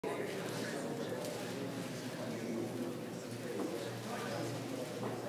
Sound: audience chatting indistinctly

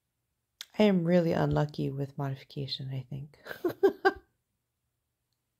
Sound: laugh

